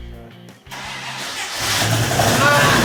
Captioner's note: engine startup